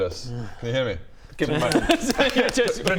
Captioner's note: slapslapslap